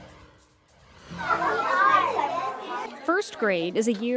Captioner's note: cheerful music continues; children chattering